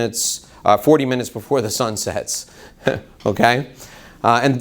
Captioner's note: laughs